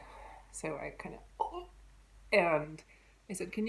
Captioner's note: gasp